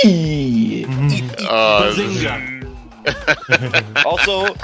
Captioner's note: chanting "Eth!" and purposely slows down on the last "Eth"; laughs